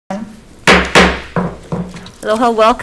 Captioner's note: gavel bangs